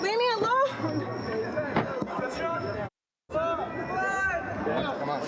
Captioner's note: chatter